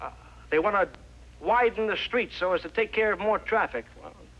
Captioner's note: none